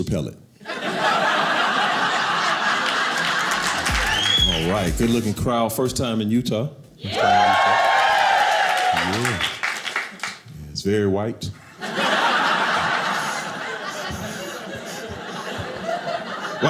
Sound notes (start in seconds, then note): 7.0 crowd cheering; 11.6 audience laughing